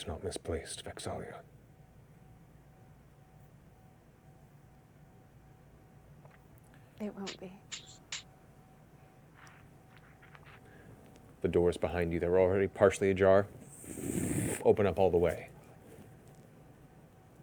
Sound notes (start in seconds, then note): 13.2 rumble